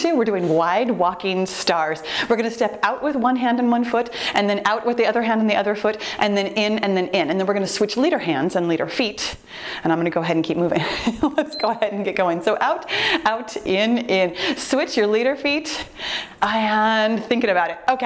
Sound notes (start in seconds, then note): 11.3 laughs; 11.5 timer beeps